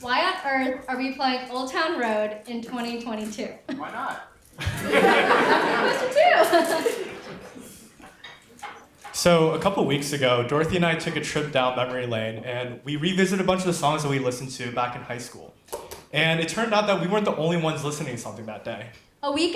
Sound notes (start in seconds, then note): 4.6 audience laughs